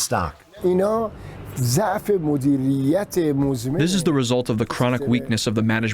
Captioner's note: through translator